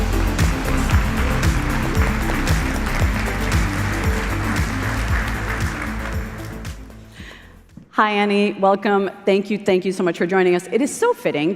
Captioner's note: applause